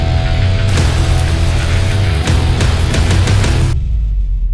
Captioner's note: sound of smoldering wood as the circle burns around the logo